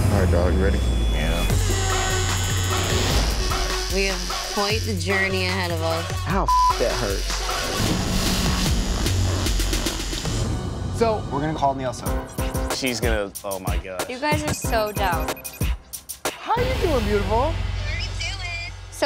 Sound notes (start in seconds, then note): 1.5 tattoo gun buzzing; 6.4 beep; 8.4 tattoo gun buzzing